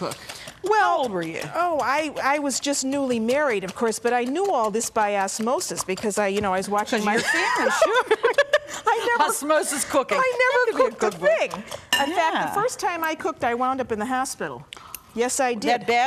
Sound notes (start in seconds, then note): 7.1 laughing